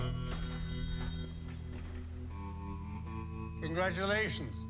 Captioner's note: bell chiming